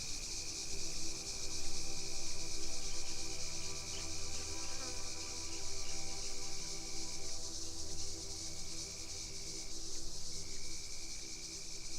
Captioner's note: dusk atmos with cicadas